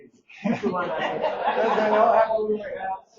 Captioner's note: audience laughing